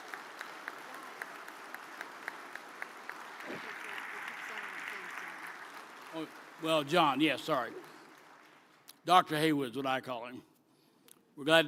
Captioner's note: applause